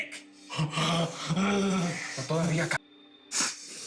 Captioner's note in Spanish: Quejidos